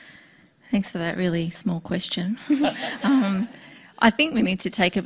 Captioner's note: laughs